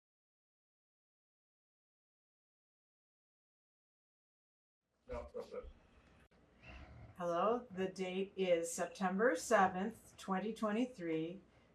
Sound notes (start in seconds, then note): 5.0 hebrew